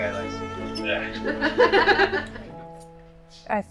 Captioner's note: laughter